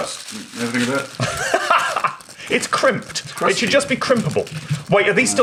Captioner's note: laughs